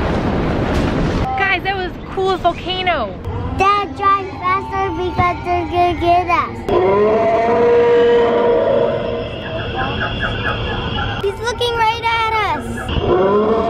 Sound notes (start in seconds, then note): 6.6 dino roars; 13.0 roaring continues